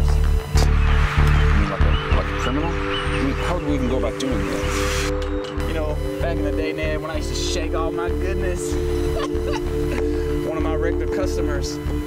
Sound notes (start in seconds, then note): 9.1 laughs